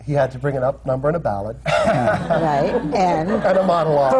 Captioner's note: laughter